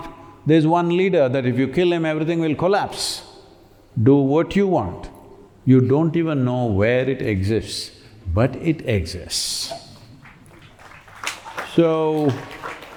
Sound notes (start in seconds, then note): 10.2 applause